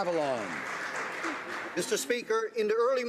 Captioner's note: some Applause